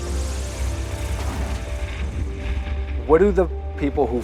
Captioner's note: plane engine roaring; plane tires screech